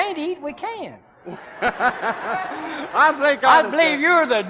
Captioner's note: laughing